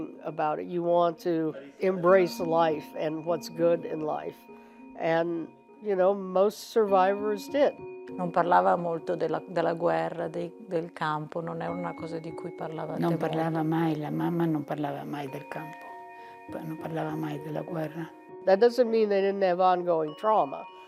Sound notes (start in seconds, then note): 7.8 speaking in foreign language